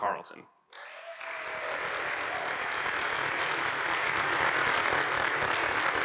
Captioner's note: audience applauding and cheering